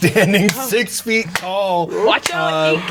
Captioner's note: clapping